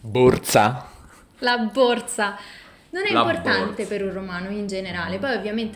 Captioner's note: imitazione del romanesco